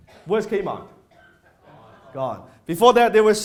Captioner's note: crowd